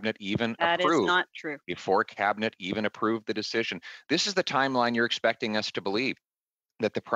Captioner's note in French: voix de l'interprète